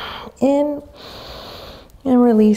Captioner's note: inhaling deeply